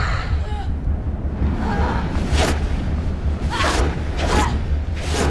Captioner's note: yelling; whooshing